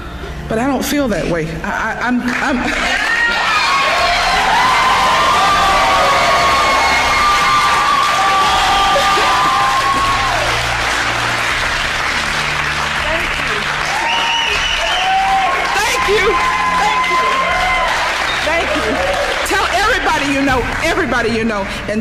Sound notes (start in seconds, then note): 3.0 cheering